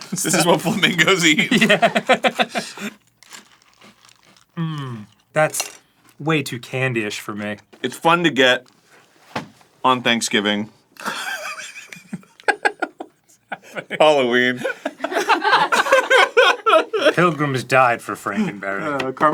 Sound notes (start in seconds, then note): 0.1 laughing; 11.0 instant wheeze laughing at his error